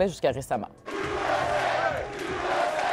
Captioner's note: slogans chanted